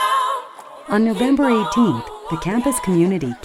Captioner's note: voiceover